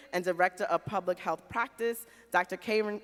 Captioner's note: none